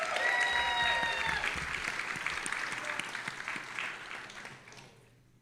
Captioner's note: audience applauding and cheering